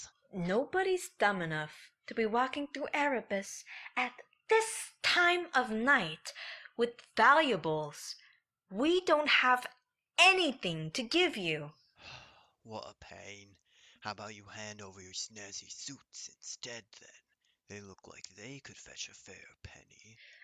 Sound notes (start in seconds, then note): 12.0 sighs